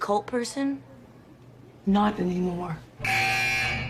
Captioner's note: alarm blares